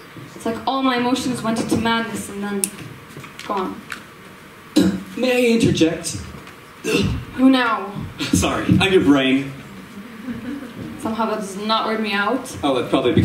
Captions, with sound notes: It's like all my emotions went into madness, and then... *snap* gone... May I interject? Who now? Sorry I'm your brain. Somehow that does not weird me out. Oh that's probably because